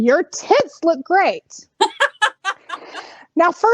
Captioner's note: laughing